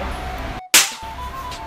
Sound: slaps

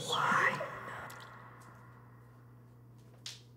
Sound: water drips

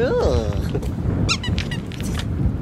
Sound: squeak squeak

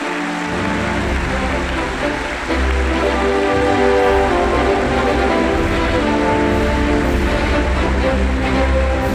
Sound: applause

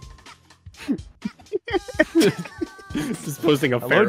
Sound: laughter

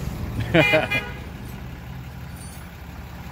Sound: laugh; laugh and simultaneous honk; Sounds of chains like Jacob Marley doing light aerobics

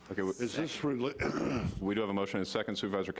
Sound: clearing throat

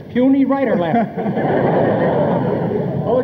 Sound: audience laughs

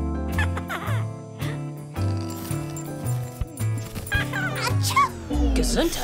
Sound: baby Gabe laughing

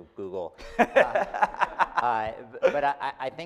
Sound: laughing

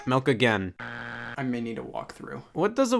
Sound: buzzer beeps

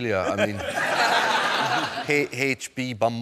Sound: laughter

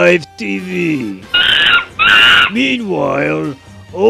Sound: sound of monkey screaming

